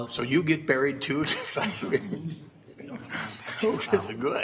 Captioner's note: laughing